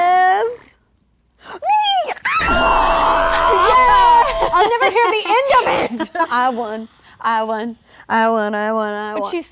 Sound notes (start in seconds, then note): 1.7 screaming